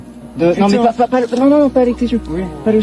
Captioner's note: CLIP: French audio continues